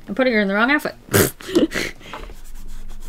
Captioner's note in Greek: Γέλια